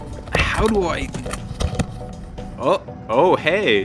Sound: mic Rustling

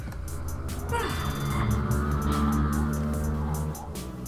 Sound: motorbike Engine

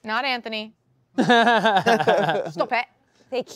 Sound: laughing

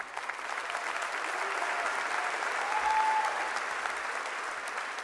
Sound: audience applauding

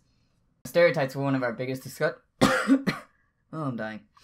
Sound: coughs

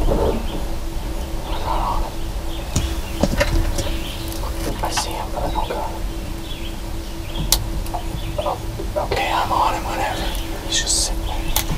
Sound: whispering

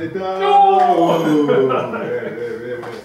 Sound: ha ha ha

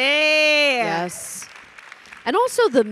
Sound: audience applauding

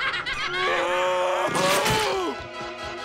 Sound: laughing; screaming

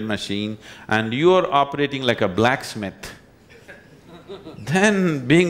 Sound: laughter

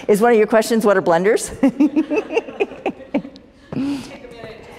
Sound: laughter

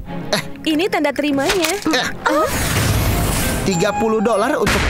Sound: gasps

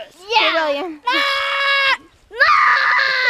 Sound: screams

